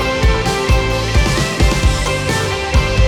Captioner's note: none